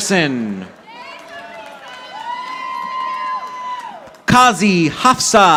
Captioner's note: audience applauding